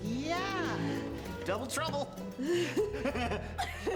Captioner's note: both giggling